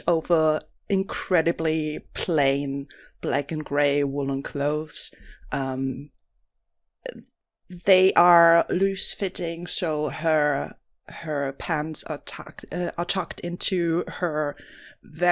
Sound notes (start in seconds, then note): none